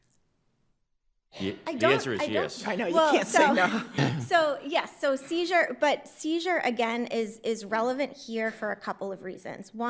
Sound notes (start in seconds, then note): 4.9 judges laugh